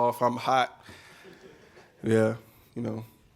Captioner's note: laughing